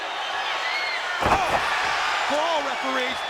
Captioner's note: audience cheering; body thudding